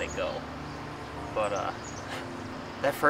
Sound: chuckles

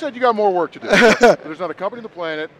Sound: laughs

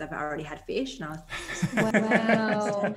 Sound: chuckles

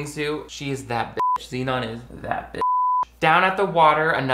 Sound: beep

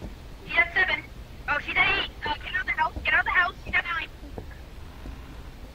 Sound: over Radio

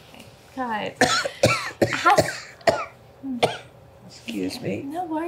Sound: cough

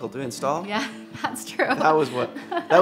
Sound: laughs

